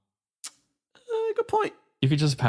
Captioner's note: clicks Tongue